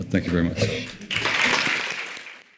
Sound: audience applauds

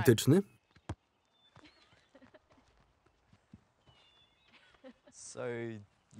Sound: laughter

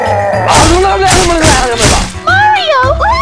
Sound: psychotic screaming

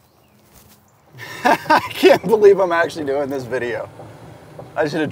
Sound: laughs

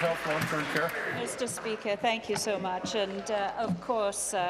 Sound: applause

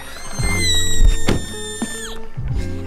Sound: squeals of joy

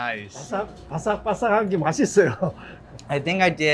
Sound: speaking in Korean

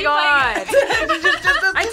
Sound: both laugh

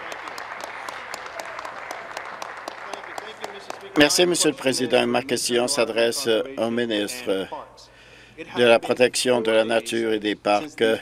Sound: applause

